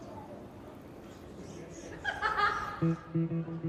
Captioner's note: laughter